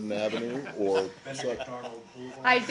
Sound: laughter

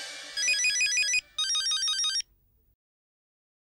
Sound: phone ringing

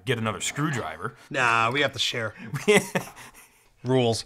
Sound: laughs

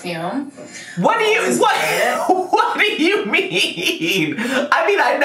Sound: laughing

